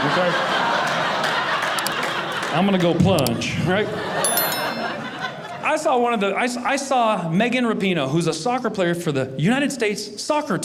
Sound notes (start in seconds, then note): 0.0 audience laughing